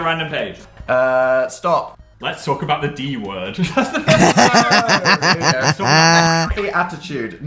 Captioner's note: laughter